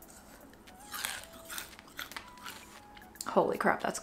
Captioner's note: crunching